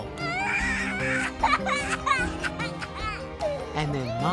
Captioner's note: baby crying